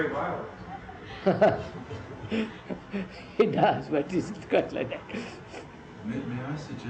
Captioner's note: laughs